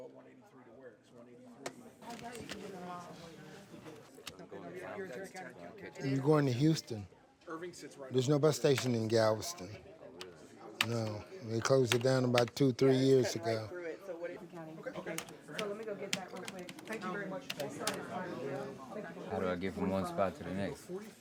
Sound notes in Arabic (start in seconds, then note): 15.0 الكتابة على لوحة المفاتيح